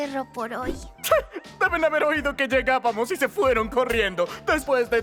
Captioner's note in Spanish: Se ríe